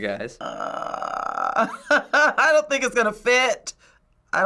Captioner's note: groans; laughs